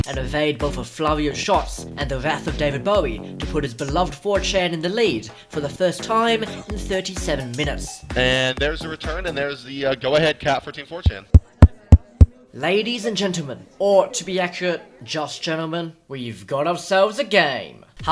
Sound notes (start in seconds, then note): 11.0 tapping microphone